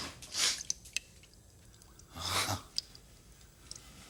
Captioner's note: water dripping